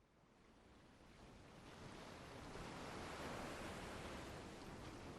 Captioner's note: waves lapping